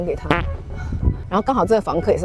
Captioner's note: sigh of despair